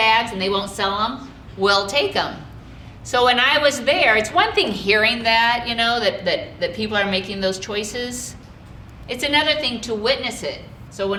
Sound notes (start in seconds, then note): none